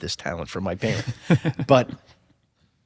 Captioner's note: laughs softly